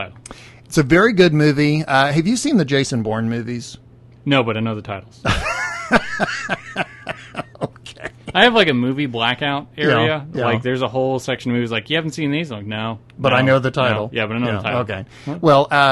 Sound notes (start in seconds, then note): 5.3 laughs